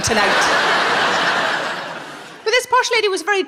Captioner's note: audience laughing